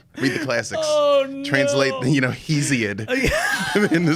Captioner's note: laughing